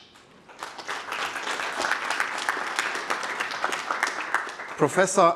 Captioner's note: applause